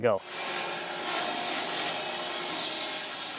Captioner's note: saw buzzing